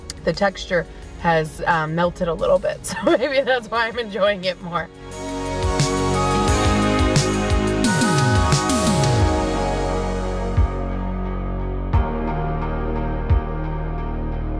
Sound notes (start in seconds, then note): 2.9 laughs; 4.9 bright, resonant music